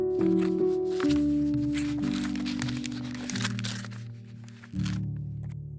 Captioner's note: paper crumbling